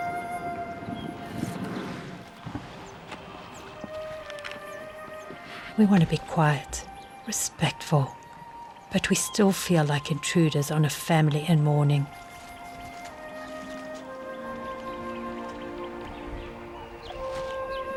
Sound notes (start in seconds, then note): 8.6 animals calling